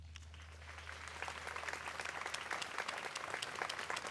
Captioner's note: audience applauds